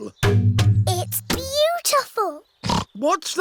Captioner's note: oinks